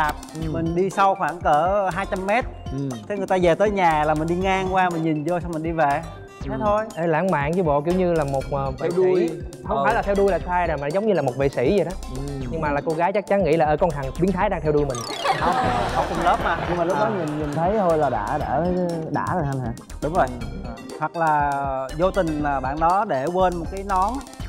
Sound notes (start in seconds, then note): 15.1 laughing